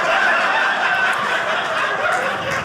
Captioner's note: audience laughing